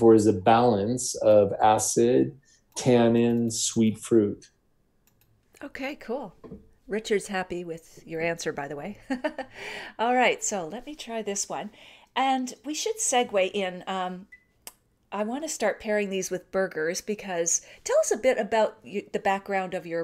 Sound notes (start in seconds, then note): 9.0 chuckles